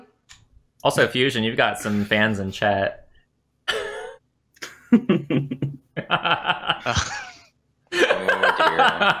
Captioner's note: laughter